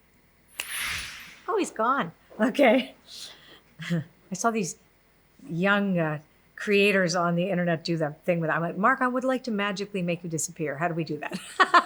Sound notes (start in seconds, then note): 0.6 swishes; 3.6 laughs